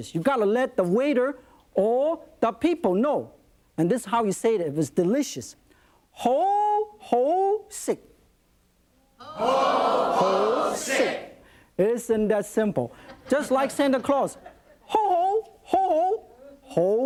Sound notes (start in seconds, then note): 6.2 speaking in Chinese; 9.3 audience repeating Chinese phrase; 13.1 light audience laughter; 16.8 speaks in Chinese